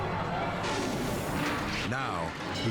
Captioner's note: air whooshes